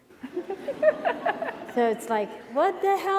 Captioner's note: laughing